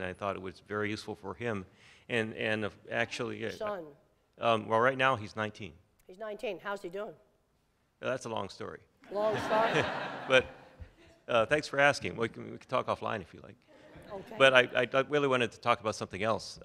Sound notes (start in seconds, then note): 9.0 laughter